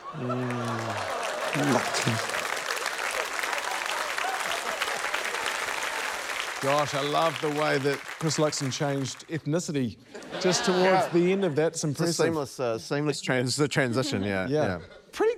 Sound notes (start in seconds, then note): 2.2 applause